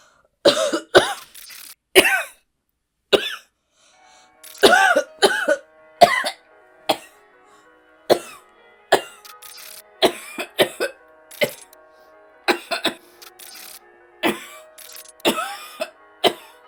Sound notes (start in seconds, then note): 1.1 audio glitches; 3.9 alarm plays; 4.4 audio glitches; 4.5 Hana continues coughing; 9.1 alarm continues playing; 9.2 audio continues glitching